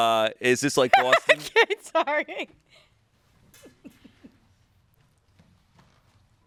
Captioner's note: laughs